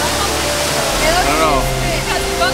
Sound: waterfall noise drowns out other sounds

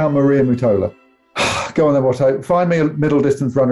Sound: sighs

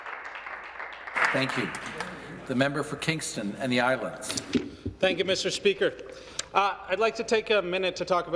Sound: some Applause

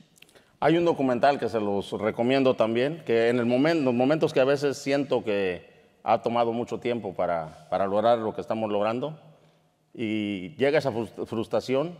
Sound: speaking in Spanish

